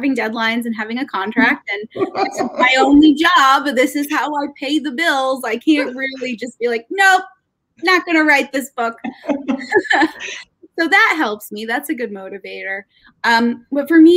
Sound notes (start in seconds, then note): 9.0 laughing